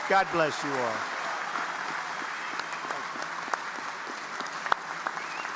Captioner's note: audience applauding